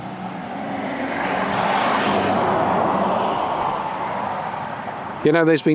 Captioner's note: car roars past behind